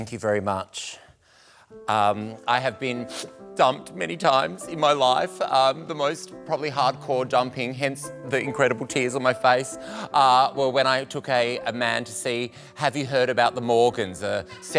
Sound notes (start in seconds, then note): 3.0 fake sniffs